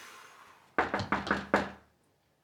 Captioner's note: knock on the door